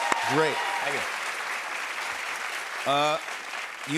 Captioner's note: cheers and applause